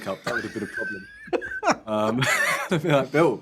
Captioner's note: laughing